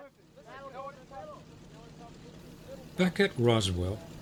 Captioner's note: aircraft engines sounding